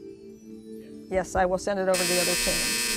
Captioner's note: buzzer